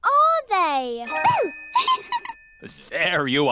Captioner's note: giggles